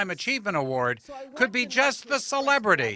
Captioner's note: cheering